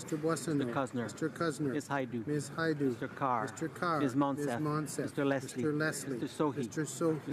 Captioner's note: speaking in french